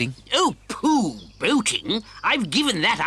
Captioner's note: none